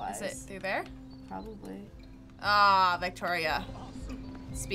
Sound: groaning

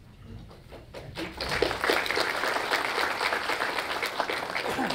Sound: audience applauds

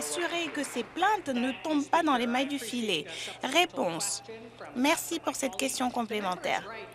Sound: some Applause

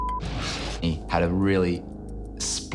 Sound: beep

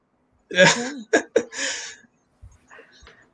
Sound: laughs

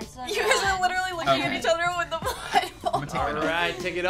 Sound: laughs

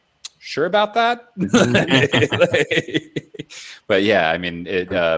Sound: laughing

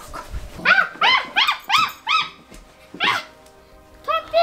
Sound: granny screaming

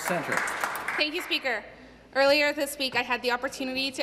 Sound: some Applause

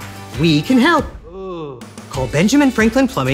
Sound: man groaning

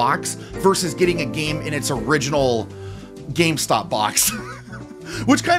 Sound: laughter

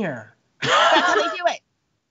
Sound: Brennan laughs

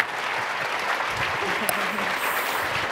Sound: applause

